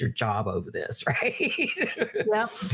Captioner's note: laughing